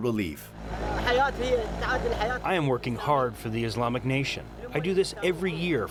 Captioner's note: through translator